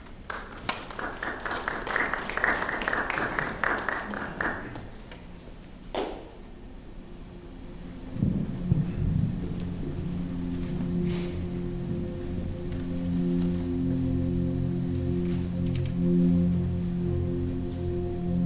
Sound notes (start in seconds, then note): 0.0 applause; 8.2 continous background tone